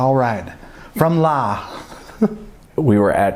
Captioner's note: laughs